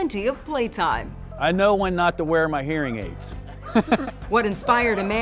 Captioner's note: laughing